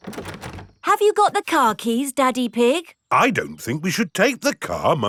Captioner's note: door rattles